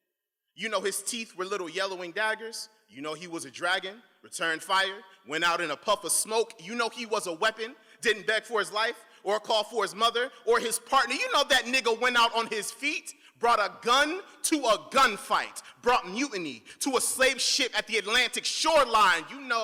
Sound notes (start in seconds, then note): none